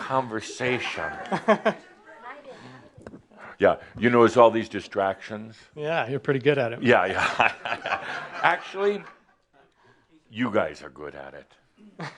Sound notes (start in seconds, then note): 1.2 some chuckles; 8.9 Adamus chuckles